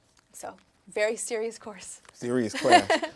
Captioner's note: laughing